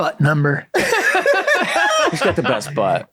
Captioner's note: all laugh